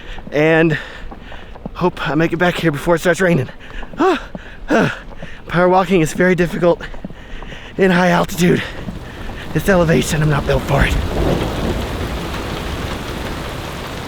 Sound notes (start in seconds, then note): 4.0 breathing heavily; 11.3 rain falling